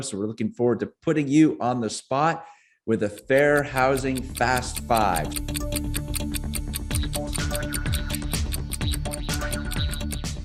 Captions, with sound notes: So we're looking forward to putting you on the spot with a Fair Housing Fast 5. (tense music) (clock ticking)